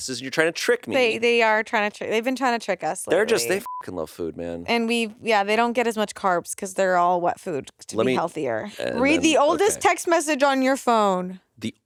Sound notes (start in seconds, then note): 3.3 beep